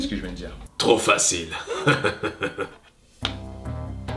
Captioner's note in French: Rires